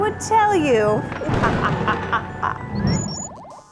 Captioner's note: evil laugh